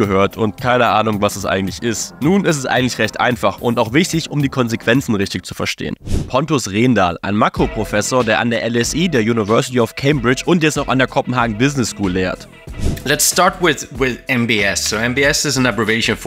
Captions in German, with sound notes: und keine Ahnung, was das eigentlich ist. Nun ist es eigentlich recht einfach und auch wichtig, um die Konsequenzen richtig zu verstehen. Pontus Rendahl, ein Makro-Professor, der an der LSE, der University of Cambridge und jetzt noch an der Copenhagen Business School lehrt. (englisch:)